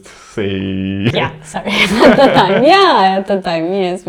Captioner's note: laugh